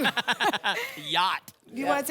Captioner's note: laughter